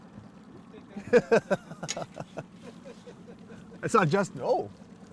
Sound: laughing

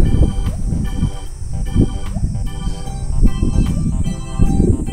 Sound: laughs

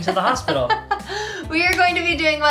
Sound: laughs

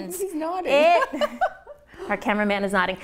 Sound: laughs

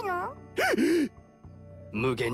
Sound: gasps

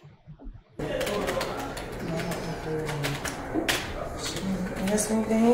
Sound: keyboard clicking

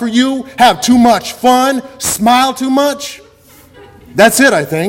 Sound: audience laughter

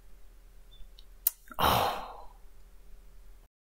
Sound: sighs

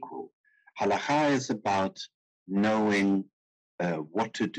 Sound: speaking in foreign language

